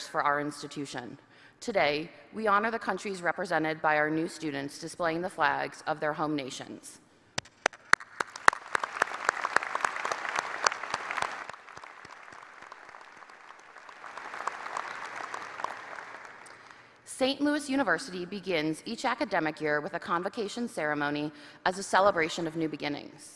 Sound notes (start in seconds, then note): 7.4 applause